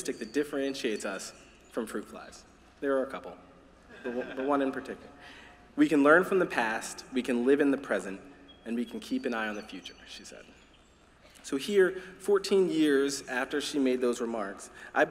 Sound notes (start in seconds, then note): 3.9 laughter